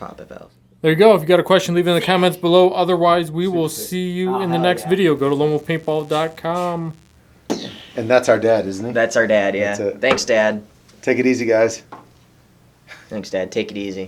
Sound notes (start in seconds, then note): 2.5 whispers; 3.4 mumbles